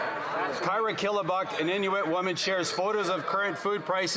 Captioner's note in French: voix de l'interprète